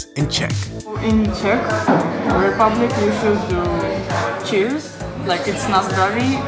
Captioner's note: speaks in Czech